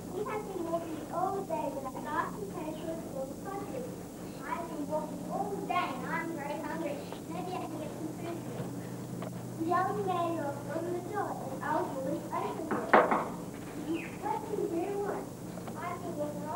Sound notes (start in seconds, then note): 12.7 knocking